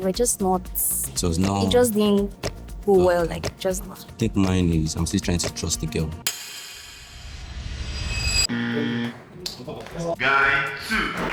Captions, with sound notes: we were just not..... It was not... It just didn't go well. Just that. I think mine is, I'm still trying to trust a girl. (buzzer) Guy 2.